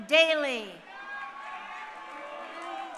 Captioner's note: crowd cheering